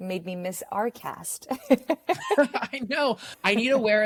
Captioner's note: both laugh